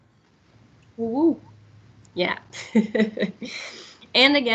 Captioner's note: laughs